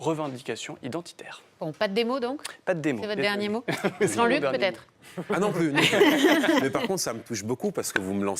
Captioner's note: laughs